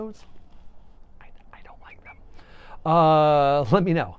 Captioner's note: whispers